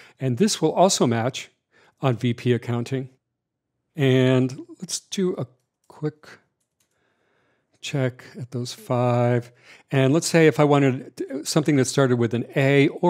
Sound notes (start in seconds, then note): 6.6 keyboard typing